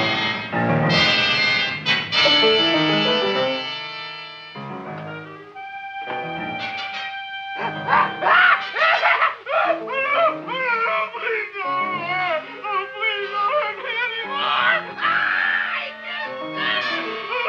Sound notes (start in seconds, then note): 7.3 man screaming; 15.8 screaming